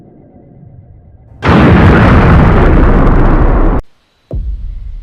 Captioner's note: an explosion noise can be heard